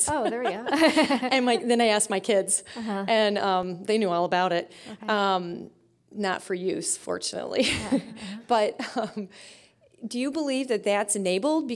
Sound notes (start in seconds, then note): 0.0 laughing; 7.8 chuckling